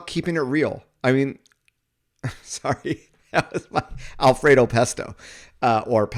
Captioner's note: laughs